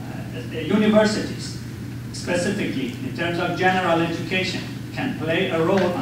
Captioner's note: none